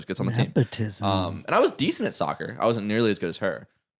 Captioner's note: gasps